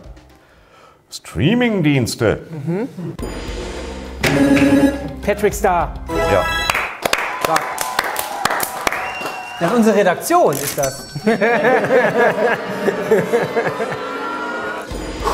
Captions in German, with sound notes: Streamingdienste. - Mhm. Patrick Star. - Ja. Stark. (Jubel, Pfiffe) Nein, unsere Redaktion ist das. (Lachen, Uh-Rufe)